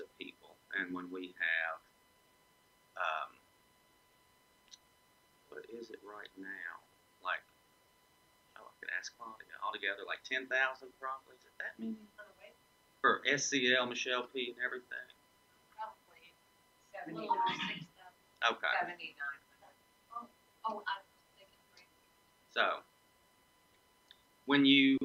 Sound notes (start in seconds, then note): 13.0 murmuring